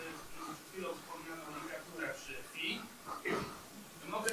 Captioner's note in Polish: szum